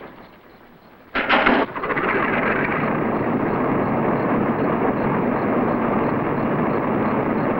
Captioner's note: engine Winding